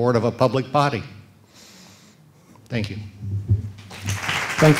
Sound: applause

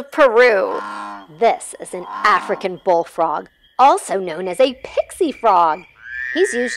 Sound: African Bull Frog sounds and Jungle noises

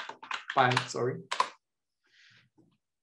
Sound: keyboard clattering

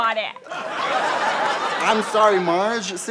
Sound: audience laughter

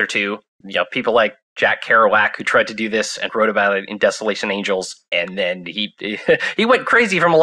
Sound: laughs

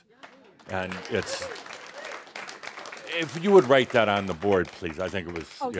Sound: audience applause

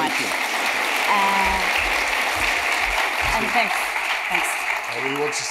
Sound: audience applauding

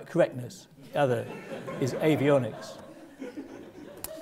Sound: laugh

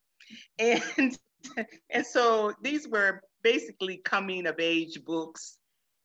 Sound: laughs

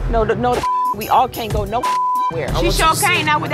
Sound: beep

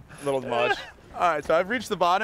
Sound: laughs

